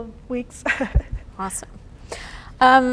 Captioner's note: chuckles